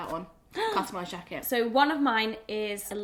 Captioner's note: gasps